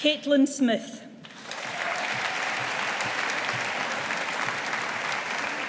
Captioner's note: audience applauding